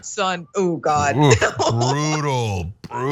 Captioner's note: laugh